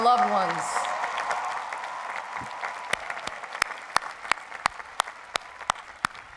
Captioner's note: cheering and applause